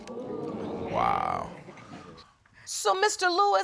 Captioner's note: audience exclaiming